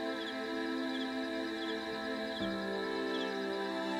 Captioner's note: whispering